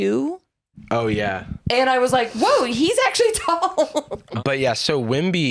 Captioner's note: laughs